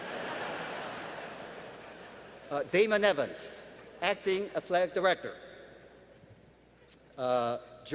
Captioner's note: laughter